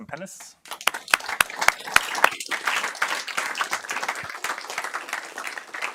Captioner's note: applause